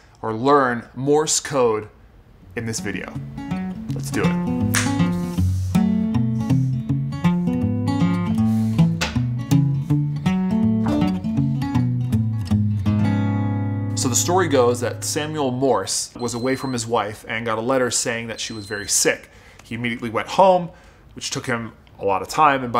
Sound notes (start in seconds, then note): 4.7 snapping; 5.7 light guitar music